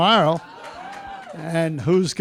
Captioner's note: cheering, applause